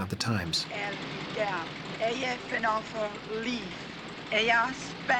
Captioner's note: broken English